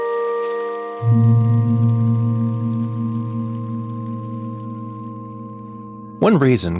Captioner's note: grass rustling; tranquil music